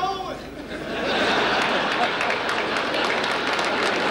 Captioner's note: audience laughter; applause